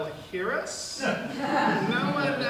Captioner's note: audience laughs